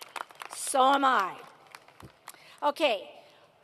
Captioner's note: applause